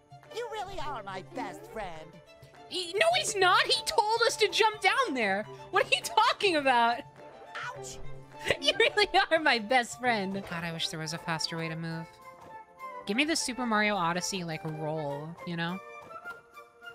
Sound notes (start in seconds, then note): 8.4 laughing